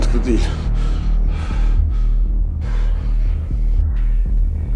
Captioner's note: deep breathing